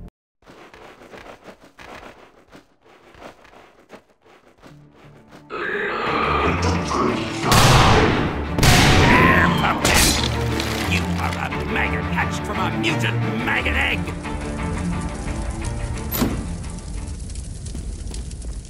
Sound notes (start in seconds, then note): 5.5 aggressive growl